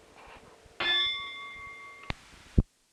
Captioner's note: bell Sound